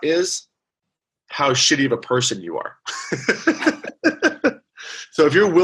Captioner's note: laughs